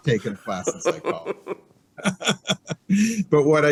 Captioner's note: laughs